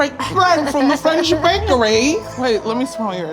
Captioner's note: laughing